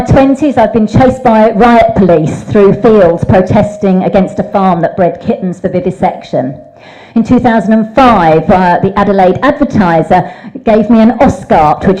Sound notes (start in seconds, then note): none